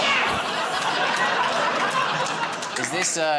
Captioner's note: laughter